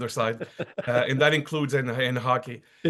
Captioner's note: laugh